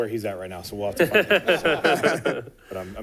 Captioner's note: laughter